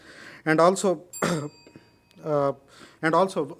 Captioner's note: bell dings